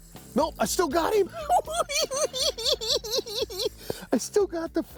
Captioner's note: cackling